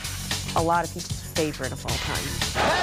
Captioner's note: laughter